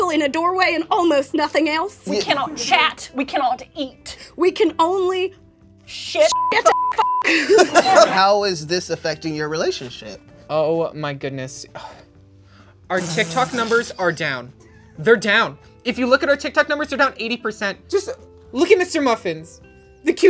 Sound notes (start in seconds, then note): 11.8 laughs